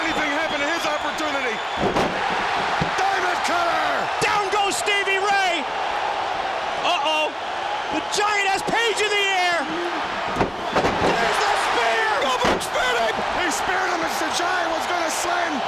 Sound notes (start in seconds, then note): 1.6 bodies slams; 2.0 crowd cheering